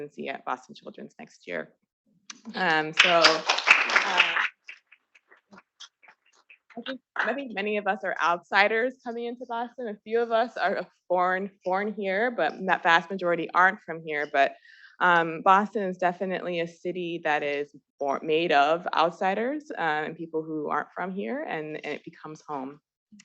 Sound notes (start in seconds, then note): 2.9 attendees applauding